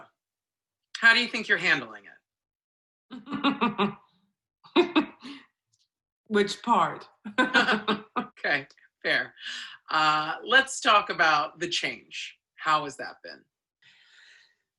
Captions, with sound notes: So, how do you think you're handling it? (LAUGHS) – Which part? – (BOTH LAUGH) OK, fair. Uh...let's talk about the change. How has that been?